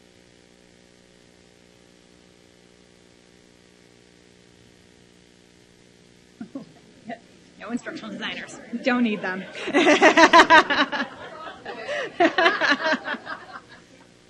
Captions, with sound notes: (laughs) no instructional designers don't need them (audience laughs)